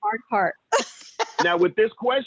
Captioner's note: laughter